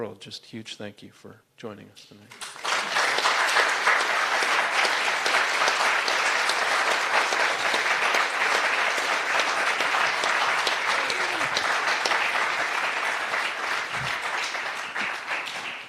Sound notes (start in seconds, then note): 2.3 applause